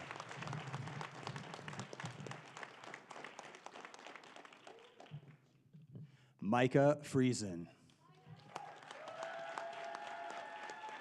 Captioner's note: applause